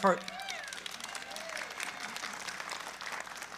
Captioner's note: applause